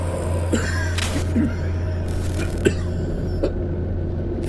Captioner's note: Sanjeev coughing